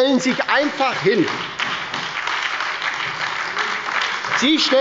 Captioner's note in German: Beifall bei der SPD und der LINKEN